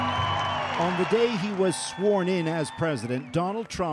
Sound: cheers and applause

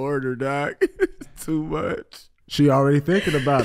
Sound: laughing

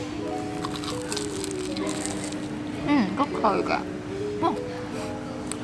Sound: crispy sound

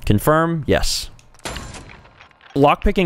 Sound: poom!

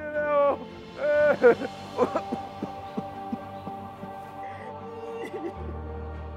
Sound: cough

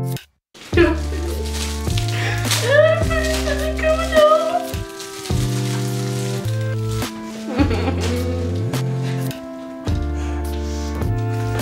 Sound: crying

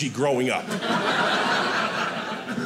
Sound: audience laughing

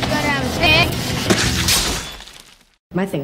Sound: stabbing sound effects

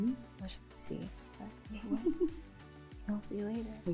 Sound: laughing cuts off speaker

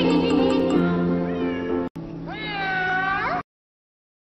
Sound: miaow

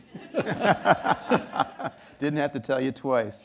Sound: laughter

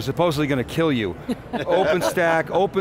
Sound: laughter

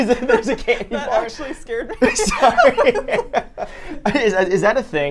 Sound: everyone laughs

